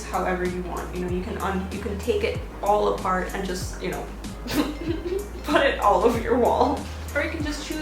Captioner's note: pffft